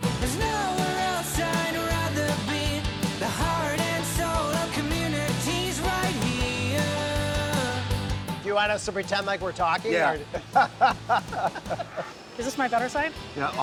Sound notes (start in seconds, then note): 9.8 laughs